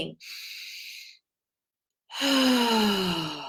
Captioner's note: inhales; exhales